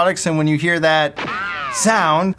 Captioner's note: ricochet